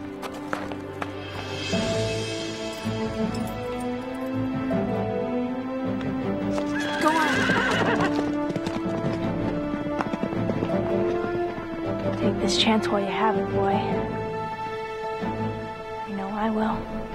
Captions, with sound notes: (suspenseful music) Go on. (horse neighs) Take this chance while you have it, boy. I know I will.